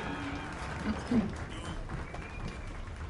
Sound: clears throat

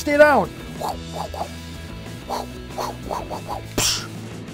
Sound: whisping air

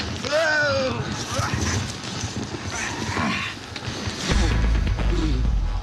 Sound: grunts

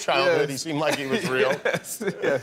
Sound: laughter

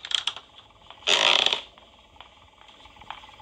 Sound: ground creaks, door clicks; floor creaks again

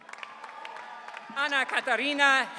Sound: audience cheering

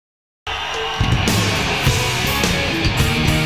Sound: audience cheering

